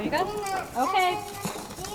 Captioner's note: children chattering